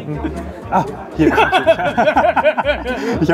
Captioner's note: laughter